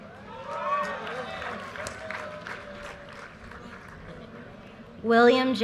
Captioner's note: audience cheers and applause